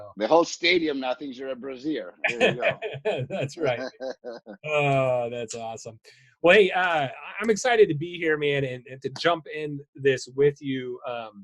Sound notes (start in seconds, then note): 2.2 laughing; 2.2 both laughing